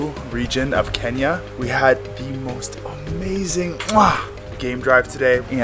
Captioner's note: kissing dramatically